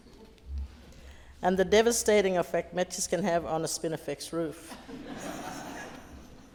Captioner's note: laughter